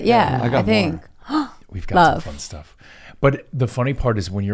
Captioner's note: gasps